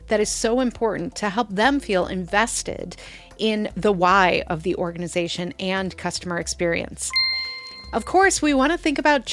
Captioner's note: ding